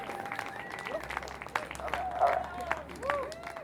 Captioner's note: audience claps